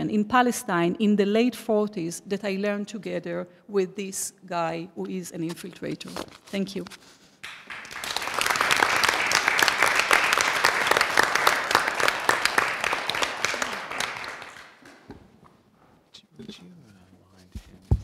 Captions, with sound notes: in Palestine in the late '40s that I learned together with this guy who is an infiltrator." Thank you. [APPLAUSE]